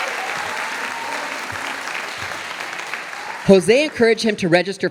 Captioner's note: audience applauding